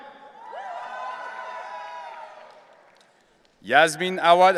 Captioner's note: audience cheering